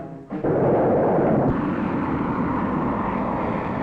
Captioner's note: engine roaring